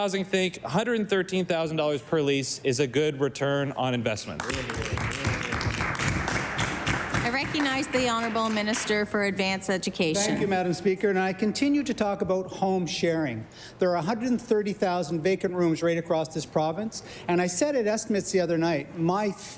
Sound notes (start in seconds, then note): 9.7 applause